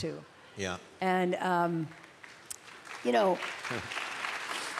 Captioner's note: applause